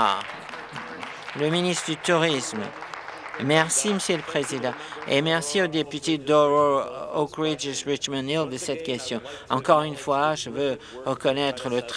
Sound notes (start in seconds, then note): 0.0 applause